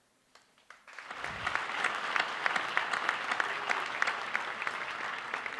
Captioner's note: applause